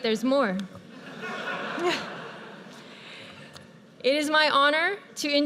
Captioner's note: audience laughs